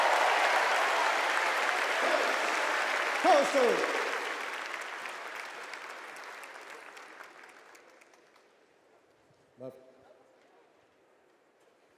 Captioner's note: cheers and applause